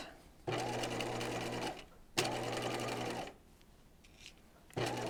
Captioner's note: sewing machine whirs